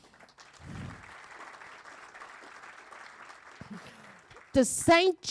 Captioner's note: audience applauding